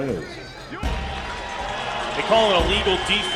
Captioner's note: crowd Noise